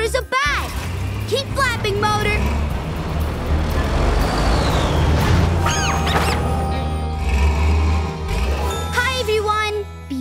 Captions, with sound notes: The baby bat thinks Motor's a bat. Keep flapping Motor. [squeaking]